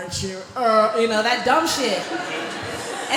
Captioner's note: laughter